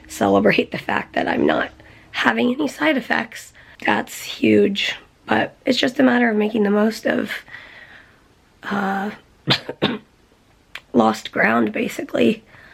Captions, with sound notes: celebrate the fact that I'm not having any side effects. That's huge. But it's just a matter of making the most of... uh...[coughing] lost ground, basically.